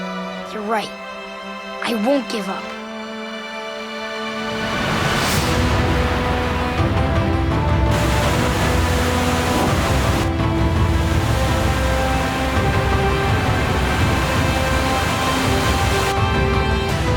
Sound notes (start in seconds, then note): 4.8 splashing